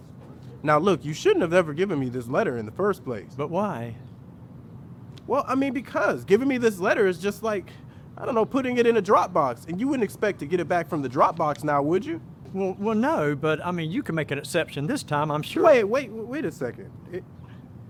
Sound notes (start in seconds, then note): none